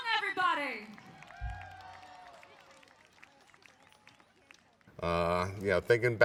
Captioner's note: audience applauds and cheers